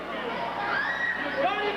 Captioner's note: crowd cheering